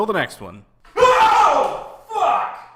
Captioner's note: screams